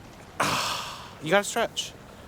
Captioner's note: sighs